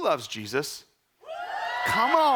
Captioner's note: crowd screaming